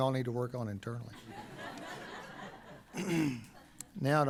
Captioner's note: laughter